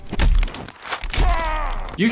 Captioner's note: metal crunching; grunting